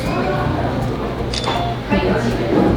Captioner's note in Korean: 찰칵!